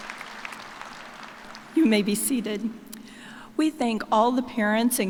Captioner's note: cheers and applause